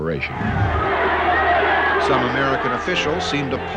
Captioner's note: a loud din from crowd